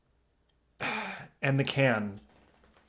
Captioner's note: sighs